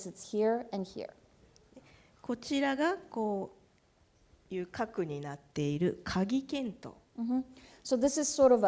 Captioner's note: speaking japanese